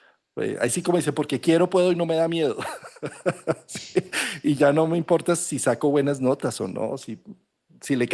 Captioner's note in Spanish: risas